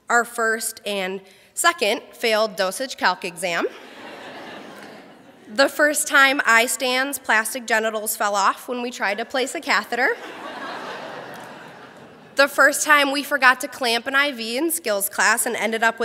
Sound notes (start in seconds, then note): 3.7 crowd laughs; 10.1 crowd laughs